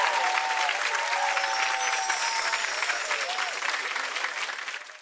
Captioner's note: audience cheering and applauding; audience applauding; musical chimes tinkling